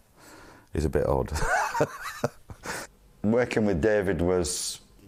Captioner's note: laugh